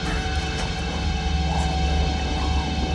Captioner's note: growling